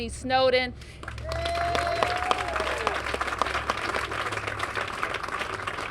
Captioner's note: cheers and applause